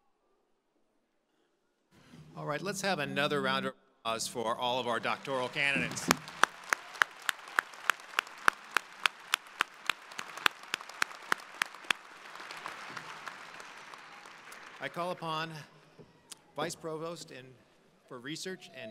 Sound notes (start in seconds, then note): 6.1 crowd applauding